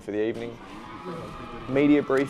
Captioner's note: crowd cheering